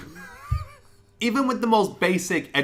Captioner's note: laughing